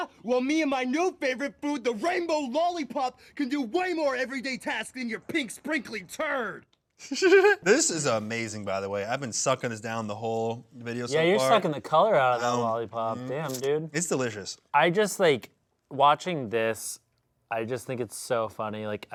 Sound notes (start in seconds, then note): 7.0 laughs